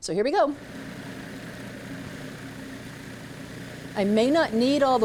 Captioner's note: processor vibrating